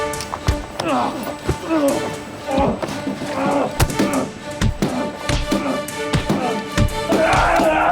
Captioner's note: grunting